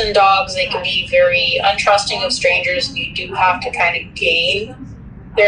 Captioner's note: none